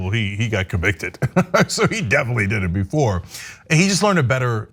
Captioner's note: laugh